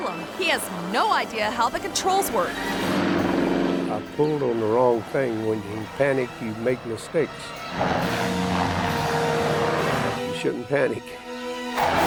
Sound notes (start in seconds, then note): 2.7 helicopter revving; 2.7 propellers rattling; 7.3 helicopter revving; 7.7 propellers rattling; 11.0 intense music; 11.6 helicopter revving; 11.6 propellers rattling